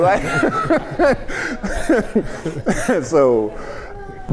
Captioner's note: group laughs